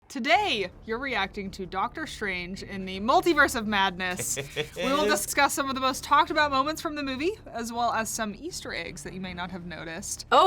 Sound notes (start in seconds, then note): 4.1 laughs